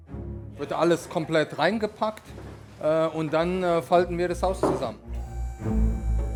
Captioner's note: German